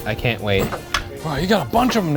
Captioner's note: wood clinking